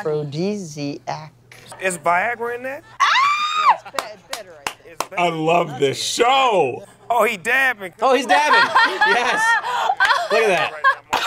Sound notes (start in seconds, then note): 3.0 screams; 8.2 laughs